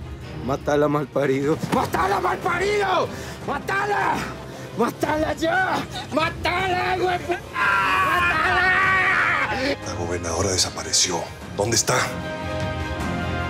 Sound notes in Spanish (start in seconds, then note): 7.4 Gritos